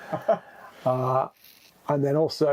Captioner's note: guy laughs